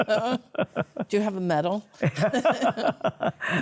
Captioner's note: both laugh